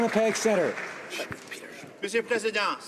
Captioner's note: some Applause